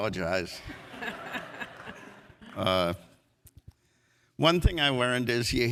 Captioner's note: audience laughs